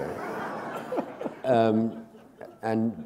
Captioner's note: laughter